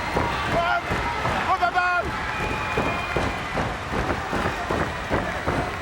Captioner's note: Afa speaks foreign language